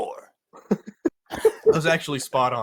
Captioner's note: laughs